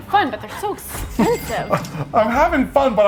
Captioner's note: cash register dings